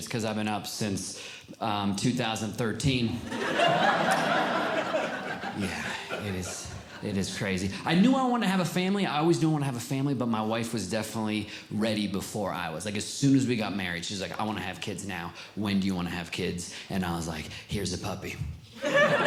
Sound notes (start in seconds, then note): 3.2 audience Laughing; 18.8 audience Laughing